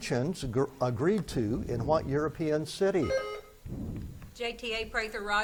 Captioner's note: buzzer beeps